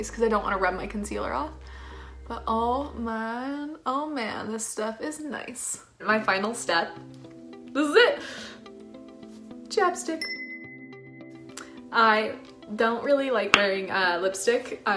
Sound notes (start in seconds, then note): 10.2 chimes